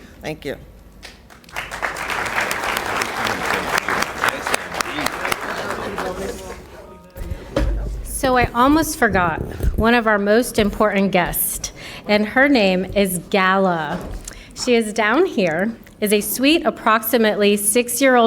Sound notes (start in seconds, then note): 9.3 applause